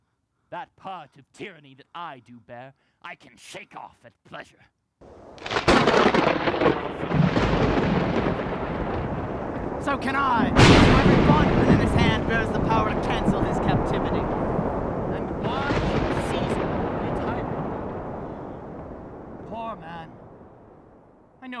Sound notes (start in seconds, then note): 5.0 thunderclap